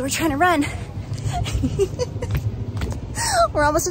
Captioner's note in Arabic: ضحك